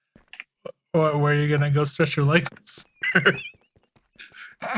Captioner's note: laughing